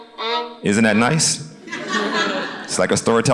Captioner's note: audience laughs